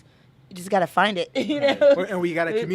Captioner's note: laughing